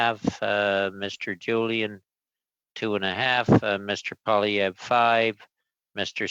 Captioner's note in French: voix de l'interprète